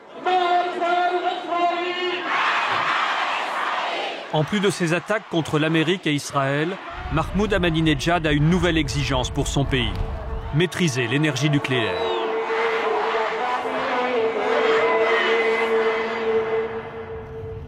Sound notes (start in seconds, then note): 1.3 Arabic spoken language